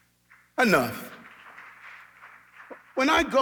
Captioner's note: audience clapping